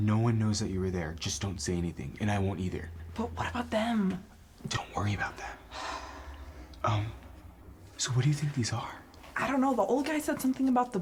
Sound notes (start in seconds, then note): 5.6 Sammie sighs